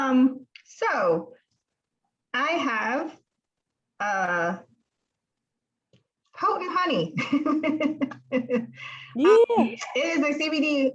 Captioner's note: laughs